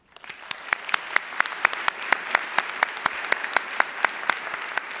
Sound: audience applauding

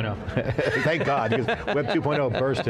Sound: both Chuckle

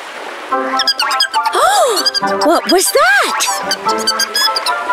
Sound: narrator gasps

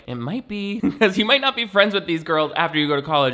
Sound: chuckles

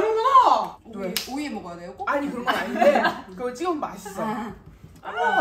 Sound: tears

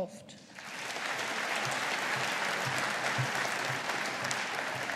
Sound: audience applauding

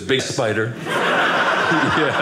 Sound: audience laughing

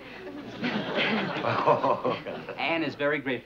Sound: laughing

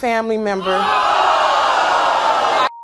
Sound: audience gasping

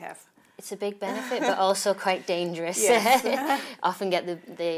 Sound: laughing

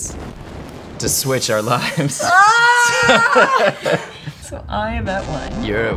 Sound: groans

